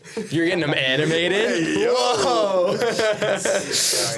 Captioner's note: laughing